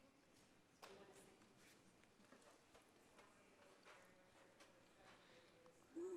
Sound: speaking off microphone

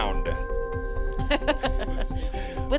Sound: laughing

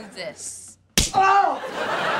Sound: yelling

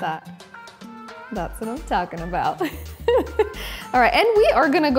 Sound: laughs

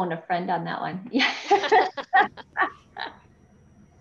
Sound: both laughing

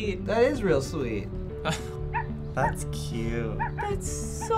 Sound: chuckles

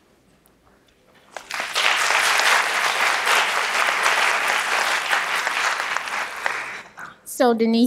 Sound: applause

